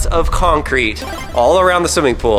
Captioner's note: power up sound